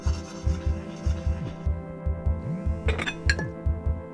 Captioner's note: phone buzzes